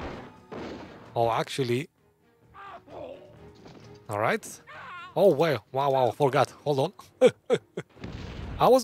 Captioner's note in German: Lacht